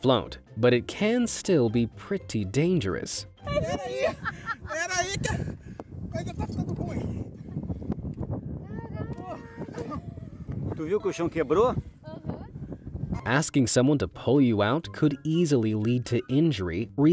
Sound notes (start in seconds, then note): 3.4 foreign language